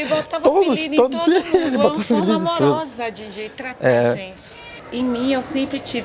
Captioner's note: laughs